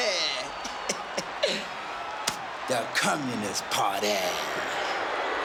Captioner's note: laughs